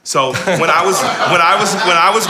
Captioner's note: all laugh